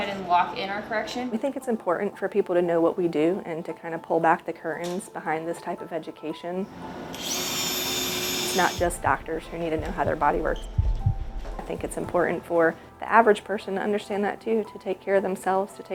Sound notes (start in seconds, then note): 6.7 drill whirring